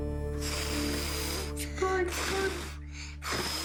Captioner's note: blows